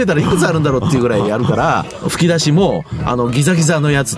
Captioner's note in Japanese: 笑い; 咳払い